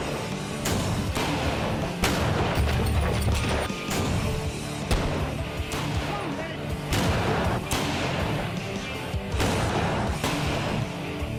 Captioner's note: gunshots